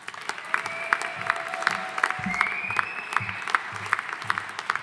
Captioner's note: audience applauding